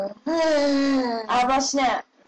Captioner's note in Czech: další kracandické hekání